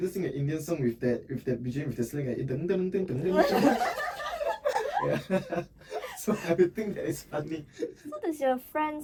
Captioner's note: laughing